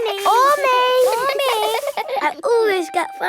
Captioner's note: all giggling